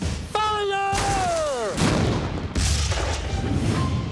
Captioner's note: explosions